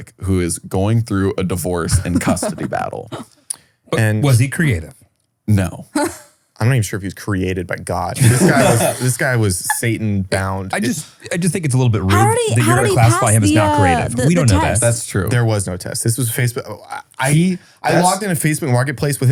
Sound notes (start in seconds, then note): 1.8 laughs; 5.9 laughs; 8.1 group laughs